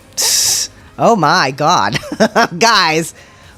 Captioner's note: laugh